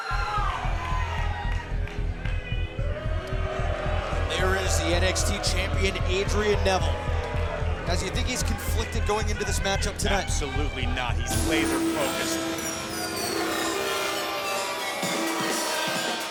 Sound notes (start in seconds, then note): 1.5 dramatic thumping; 3.0 crowd boos; 12.5 fast-paced techno music